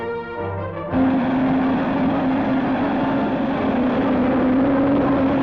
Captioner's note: rocket blastoff